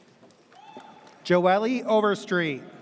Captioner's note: audience cheers